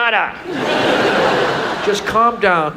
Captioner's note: audience laughs